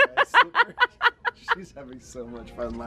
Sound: laughter

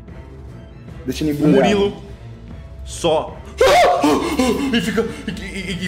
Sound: sounds of desperation

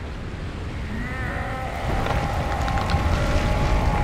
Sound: groaning

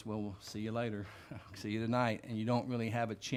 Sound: chuckles

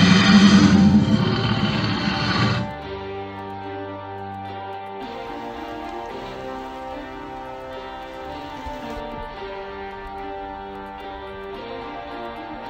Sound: dinosaur roaring; water splashing

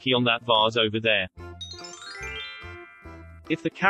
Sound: twinkly Noises

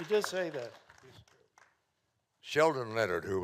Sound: audience clapping

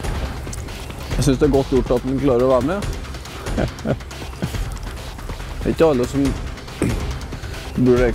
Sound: giggle

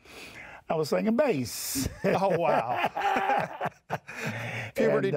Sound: laughs

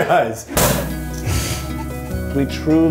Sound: champaign bottle popping

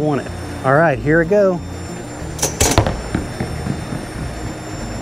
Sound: bowling ball thuds

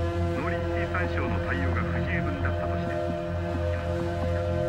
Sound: television chatters

